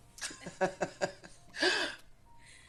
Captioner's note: laughter